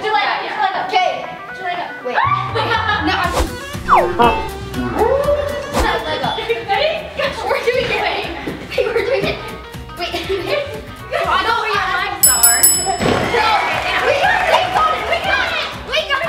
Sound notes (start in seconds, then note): 3.8 humorous music; 12.2 bell dings